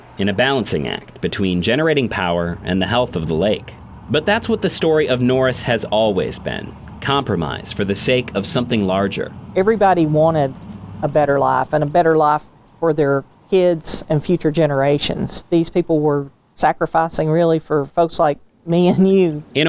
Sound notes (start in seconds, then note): 9.5 pat